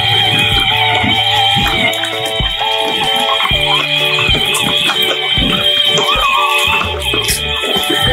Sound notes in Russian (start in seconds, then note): 3.6 мотоцикл быстро едет